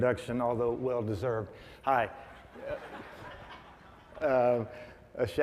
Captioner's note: audience laughs